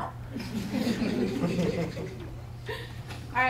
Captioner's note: audience laughing